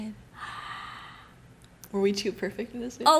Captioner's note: gassssssspppp